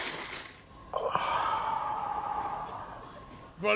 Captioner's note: sighing